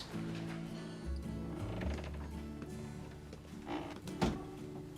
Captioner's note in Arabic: يفتح الباب، ويغلق